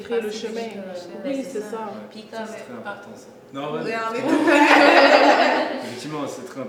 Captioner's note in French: brouhaha